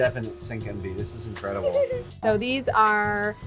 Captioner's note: laughs